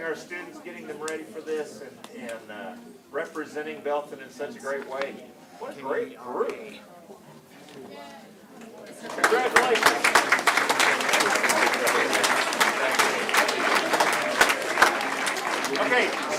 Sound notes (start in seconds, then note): 9.0 applause